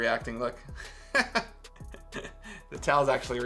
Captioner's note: amused laughter